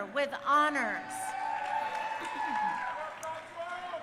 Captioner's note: crowd cheering